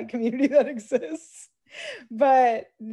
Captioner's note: laughs